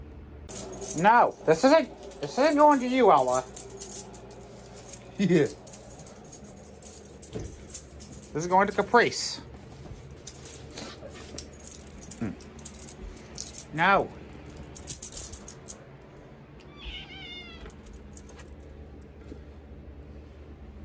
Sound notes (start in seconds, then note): 5.1 Ella laughs; 16.6 Caprice meows